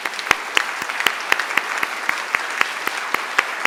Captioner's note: applause